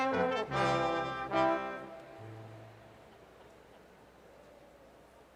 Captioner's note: none